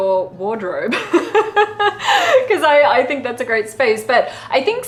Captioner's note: laughs